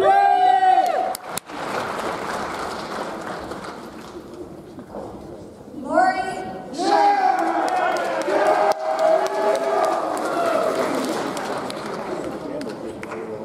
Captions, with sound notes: (audience cheers) (audience applauds) Morey Schneider. (audience cheers) (audience applauds)